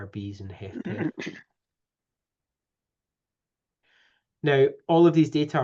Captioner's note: clears throat